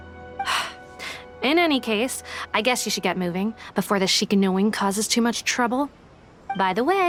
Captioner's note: sigh